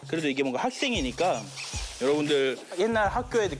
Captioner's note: rustling